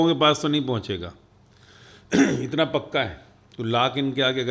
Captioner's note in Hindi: गला साफ़ करने की आवाज़